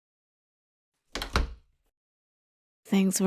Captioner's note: door closes